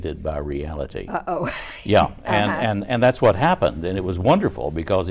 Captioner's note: laughing